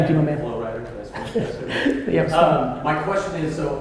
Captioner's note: laughs